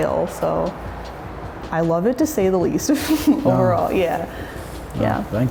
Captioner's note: chuckles